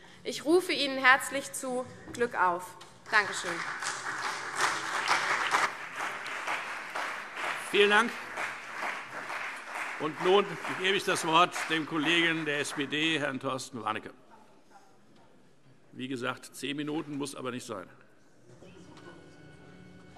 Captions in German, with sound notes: Ich rufe Ihnen herzlich zu: Glück auf. - Danke schön. [Beifall CDU und BÜNDNIS 90/DIE GRÜNEN] Vielen Dank. - Nun gebe ich das Wort dem Kollegen der SPD, Herrn Torsten Warnecke. Wie gesagt, die Redezeit beträgt zehn Minuten; sie muss aber nicht ausgeschöpft werden.